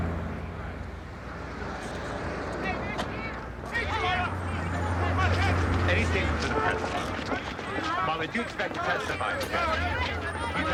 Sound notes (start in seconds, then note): 3.8 reporters clamoring